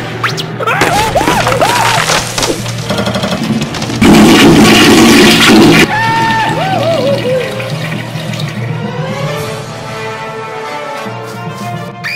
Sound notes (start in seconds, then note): 0.6 screaming; 2.9 toilet Flush spam